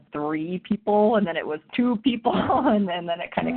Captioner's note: chuckles